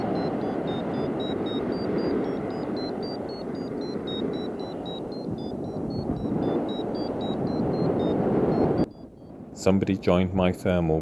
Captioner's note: vario beeping again